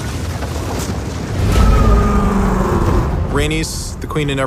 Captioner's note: dragon roars